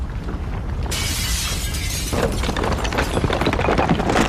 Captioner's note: glass shatters